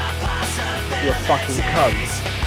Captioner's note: 𝗮𝗻𝗴𝗿𝘆 𝗕𝗿𝗶𝘁𝗶𝘀𝗵 𝗰𝗼𝗺𝗽𝗹𝗮𝗶𝗻𝗶𝗻𝗴